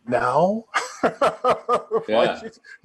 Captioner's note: chuckling